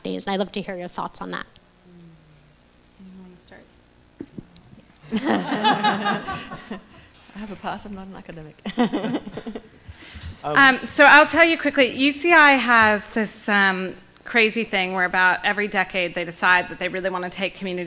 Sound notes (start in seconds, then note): 5.0 laughing